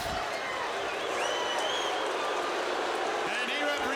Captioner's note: audience jeering